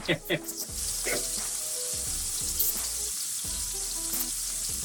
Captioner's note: laughing; sizzling